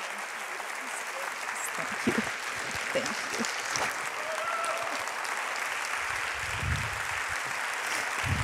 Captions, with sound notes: Thank you, thank you. (applauding)